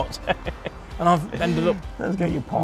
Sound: laughing

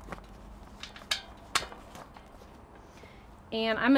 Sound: spokes clanging

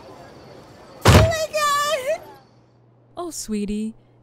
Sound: body crunches

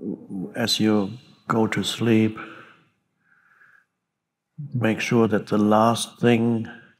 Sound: none

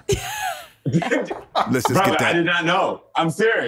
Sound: laughter

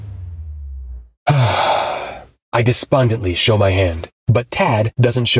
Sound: sigh

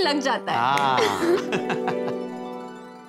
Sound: laughs

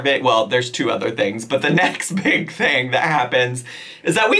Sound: laughs

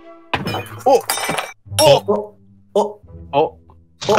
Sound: the sound of something breaking

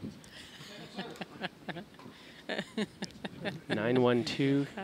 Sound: laughing

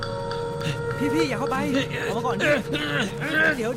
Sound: Malay Language

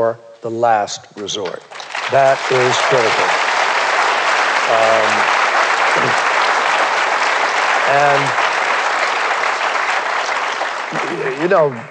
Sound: applause

